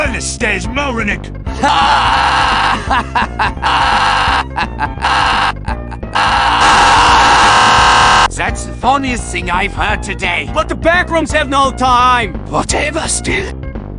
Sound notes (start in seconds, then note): 4.7 laughs Harshly